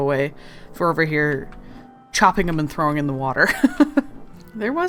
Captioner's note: laughs